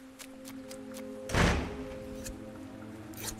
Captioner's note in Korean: 문이 닫히는 소리